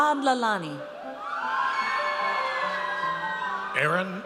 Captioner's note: audience cheers